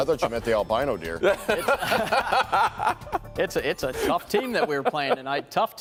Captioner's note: laughter